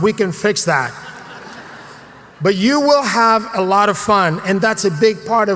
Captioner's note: laugh